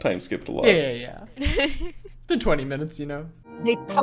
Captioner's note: laughs